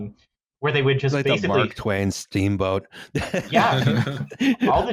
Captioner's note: laughs